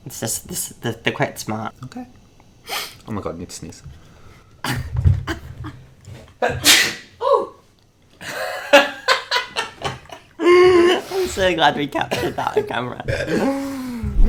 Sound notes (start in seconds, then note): 6.4 sneezes; 8.2 laughs